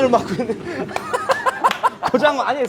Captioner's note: laughing